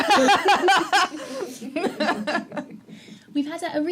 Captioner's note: laughter